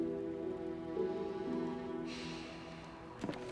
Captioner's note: sighs